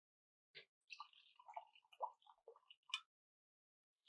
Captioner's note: wine pouring